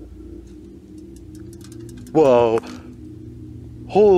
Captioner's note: fence rattles